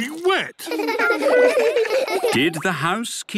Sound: laughter

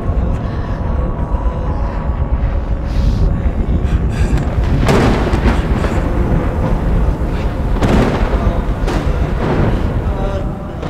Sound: thunderstorm

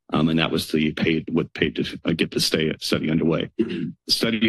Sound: clears throat

